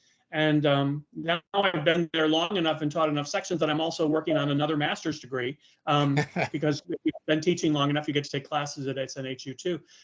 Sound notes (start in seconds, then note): 6.1 laughing